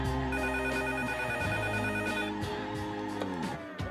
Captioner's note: phone rings